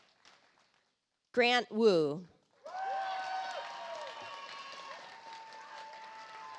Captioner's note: audience applauds